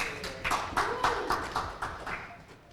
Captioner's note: clapping